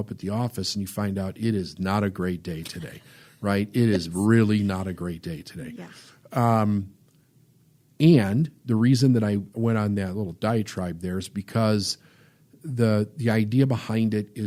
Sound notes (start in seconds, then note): 2.5 laughs